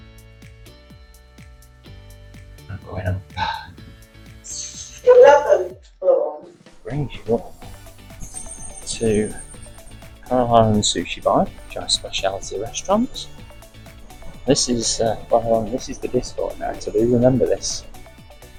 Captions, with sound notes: going up [Lift voice "Eleventh Floor"] brings you up to Kora La and Sushi Bar which are speciality restaurants This is this Bar 11 This is the disco at night I do remember this